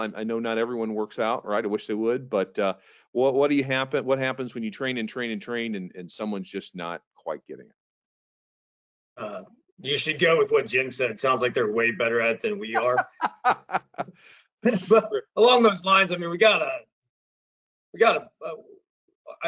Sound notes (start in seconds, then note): 12.5 laughing